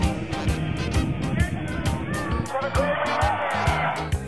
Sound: crowd cheers

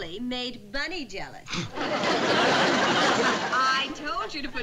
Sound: scoffs

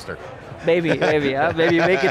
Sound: laughs

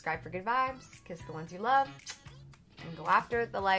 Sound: smacks kiss

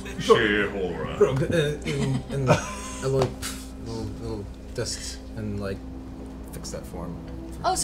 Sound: poof

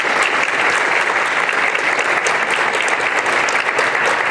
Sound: applause

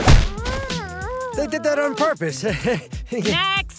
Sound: chuckles

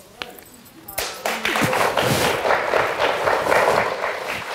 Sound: audience applauds

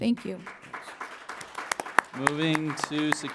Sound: applause

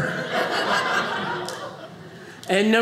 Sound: audience laughing

